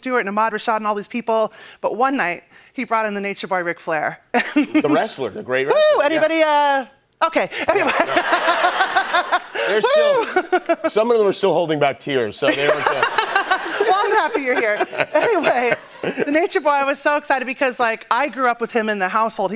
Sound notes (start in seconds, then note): 5.7 laughs; 8.0 laughter, cheering, and applause; 12.6 laughter and applause